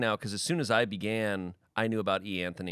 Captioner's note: none